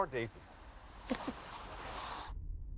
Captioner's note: chuckles